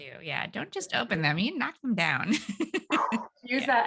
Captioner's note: laughs